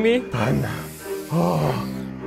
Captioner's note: sighs; sighs in relief